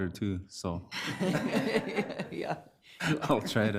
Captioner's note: all laughing